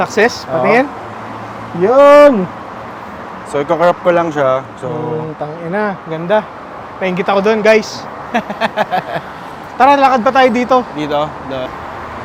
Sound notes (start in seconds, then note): 8.3 chuckles